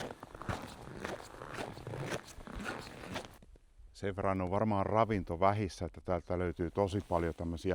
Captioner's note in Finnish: luistelun ääntä